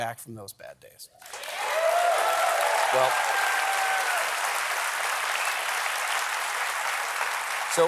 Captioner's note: applause